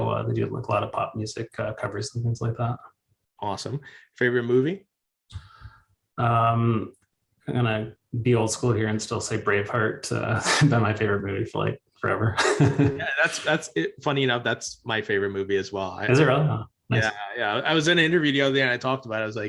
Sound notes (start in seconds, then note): 10.7 chuckles; 12.3 laughs